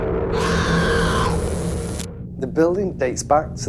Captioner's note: screaming